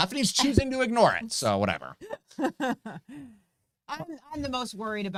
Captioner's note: laughing